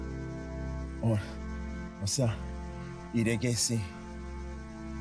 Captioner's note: speaking Cherokee language